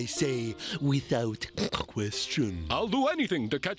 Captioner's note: snorts